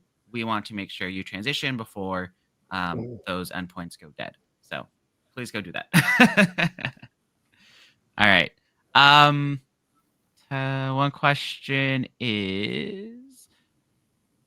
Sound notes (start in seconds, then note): 6.1 laughs